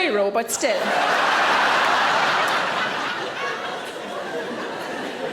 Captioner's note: audience laughing